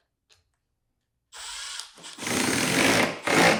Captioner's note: drill whirring